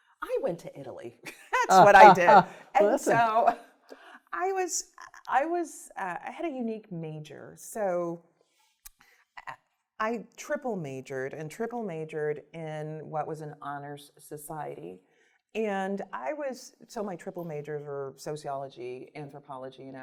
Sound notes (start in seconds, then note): 1.6 laughs